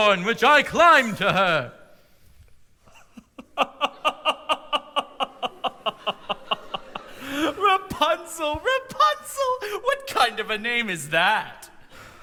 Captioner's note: laughter